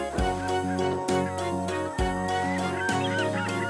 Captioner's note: squawking